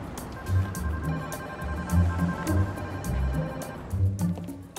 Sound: phone ringing

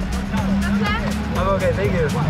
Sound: speaking foreign language

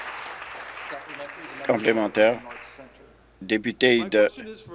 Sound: applause

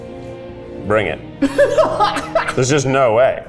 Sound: laughing

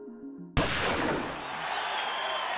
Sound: gentle music; starting gun shot; cheering

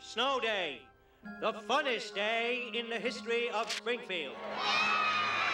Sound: cheering

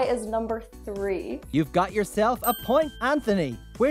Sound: bell dings

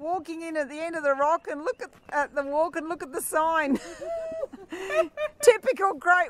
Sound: laughter

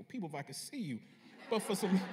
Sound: laughter

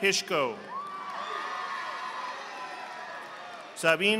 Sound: audience applauding

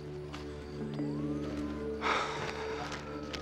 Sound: <i> sighs</i>

